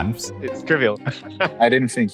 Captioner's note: laughs